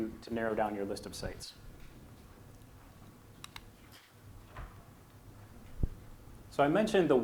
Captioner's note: silence